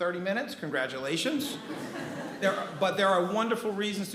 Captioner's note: attendees laughing